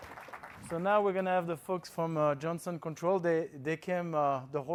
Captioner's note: applause